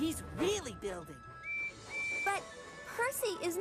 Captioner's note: toot-Toot!